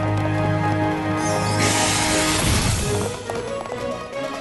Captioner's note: whoosh